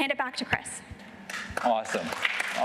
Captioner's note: applause